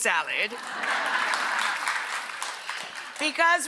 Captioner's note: audience laughs